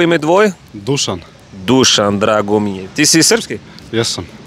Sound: Serbian

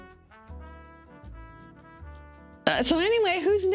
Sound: awkward silence

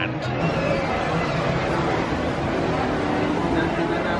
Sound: people chattering

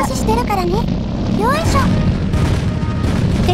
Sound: sound of the tank's engine

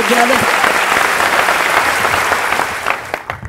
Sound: applause

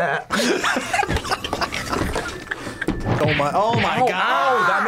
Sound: both laugh

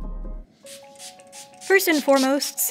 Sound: water spritzing

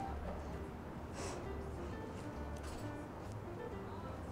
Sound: sobbing

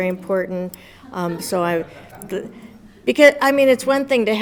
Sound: audience laughs

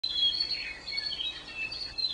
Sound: birds chirping

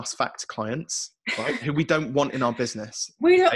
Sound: laughs

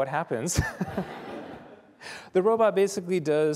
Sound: laughter

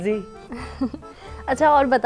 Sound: chuckles

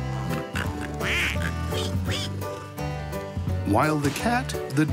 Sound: farm animals snort and quack

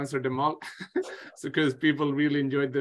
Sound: chuckles

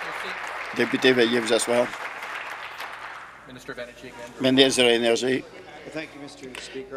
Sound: applause

